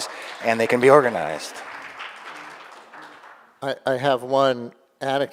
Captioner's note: audience applauding